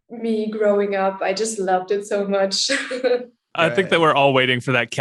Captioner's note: laughing